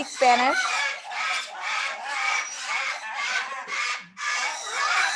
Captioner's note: parrots chirping